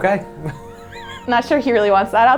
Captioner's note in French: en riant